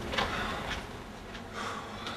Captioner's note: exhale